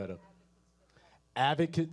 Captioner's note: speaking away from mic